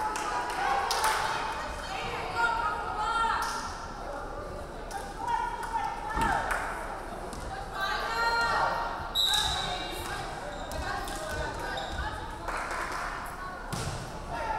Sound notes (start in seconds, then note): 9.1 referee whistling